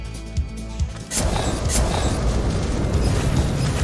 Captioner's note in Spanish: Música de western animada; Estruendo